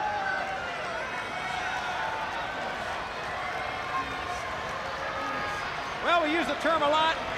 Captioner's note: crowd cheering